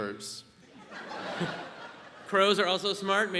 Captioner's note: audience laughs